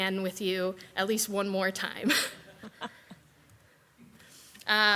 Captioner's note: chuckles